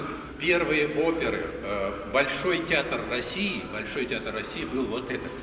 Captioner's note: speaks in the Russianlanguage